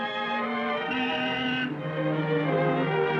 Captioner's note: horn honking